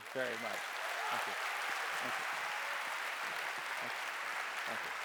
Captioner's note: audience applauding